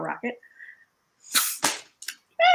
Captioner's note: blowing in the straw